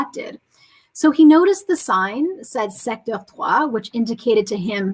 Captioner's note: speaking french